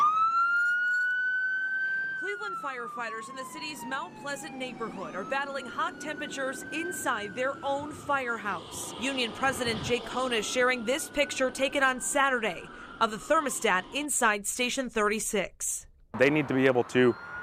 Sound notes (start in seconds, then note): 5.8 sirens